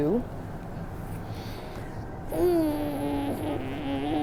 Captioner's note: grunting